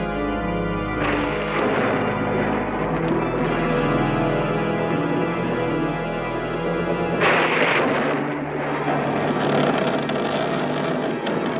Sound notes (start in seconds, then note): 1.0 thunder rumbling; 9.7 creaking